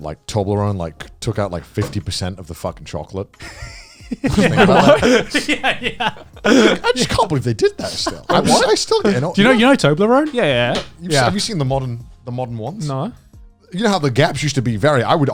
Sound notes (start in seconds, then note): 3.4 giggles